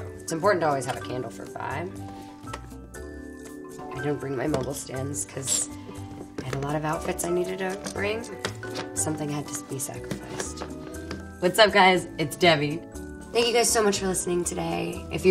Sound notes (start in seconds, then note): none